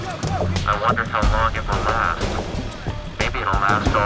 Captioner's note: instructor on megaphone